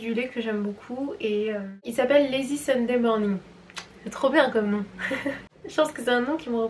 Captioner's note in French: rires